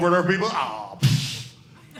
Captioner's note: audience laughing